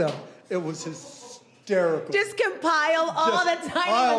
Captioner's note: laughing